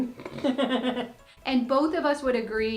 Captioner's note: both laughing